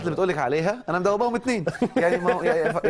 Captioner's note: laughing